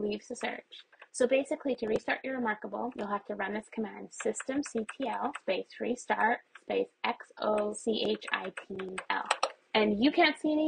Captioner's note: keyboard presses